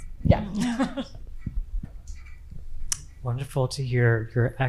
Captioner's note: participants laughing